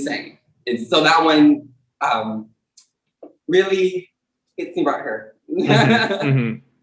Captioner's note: laughs